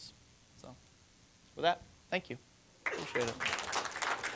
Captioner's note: applause